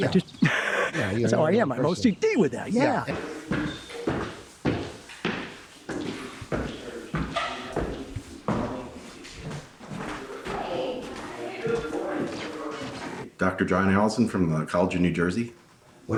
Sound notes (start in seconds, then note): 3.6 feet stomping; 10.7 distant people chattering